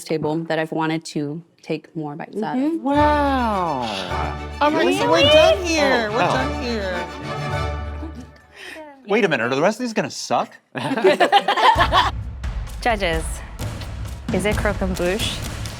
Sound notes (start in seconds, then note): 2.9 triumphant music; 10.7 all laughing